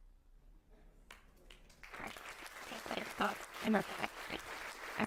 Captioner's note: audience applauding